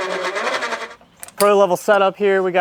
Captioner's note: engine cranking over, forks moving